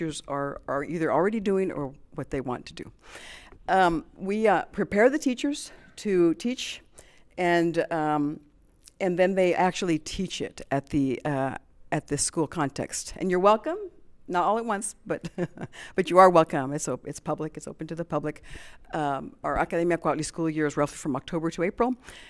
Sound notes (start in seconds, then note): 15.2 chuckles